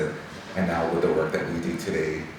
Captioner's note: none